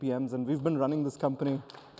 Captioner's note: applause